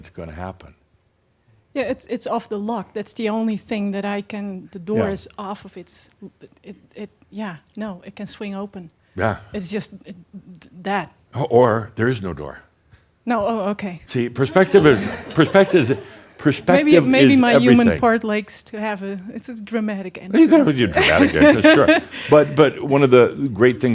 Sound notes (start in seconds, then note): 14.6 some chuckles; 20.4 she chuckles